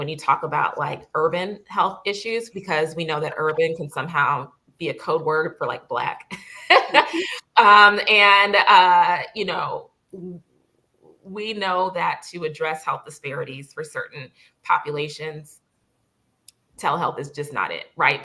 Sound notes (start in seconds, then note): 6.3 laughter